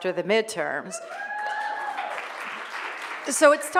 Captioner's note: applause